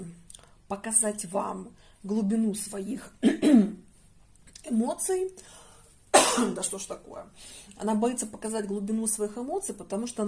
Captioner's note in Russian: откашливается